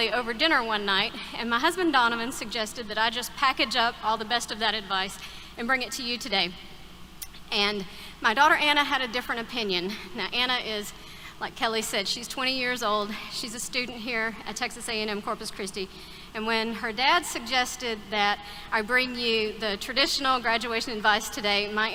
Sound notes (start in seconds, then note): none